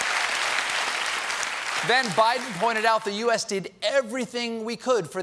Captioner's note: applause